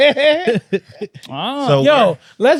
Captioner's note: laughing